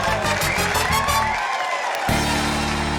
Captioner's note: cheering, applause